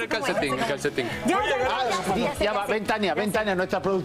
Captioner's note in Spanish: risas